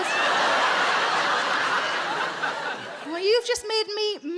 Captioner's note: audience laughs